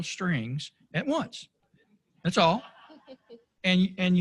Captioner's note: laughter